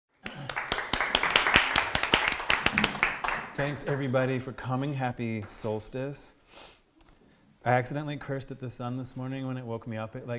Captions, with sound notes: (APPLAUSE) Thanks, everybody, for coming. Happy solstice. I accidentally cursed at the sun this morning when it woke me up